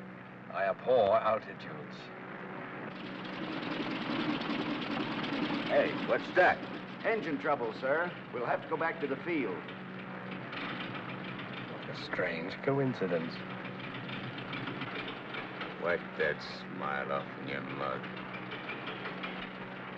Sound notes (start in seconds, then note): 3.1 engine sputters; 13.8 engine sputters